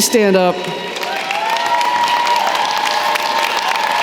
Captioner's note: cheering & applause